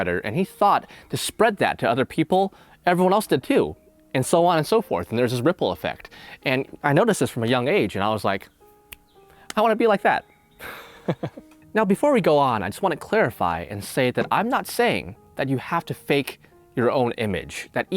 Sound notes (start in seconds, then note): 10.6 laughing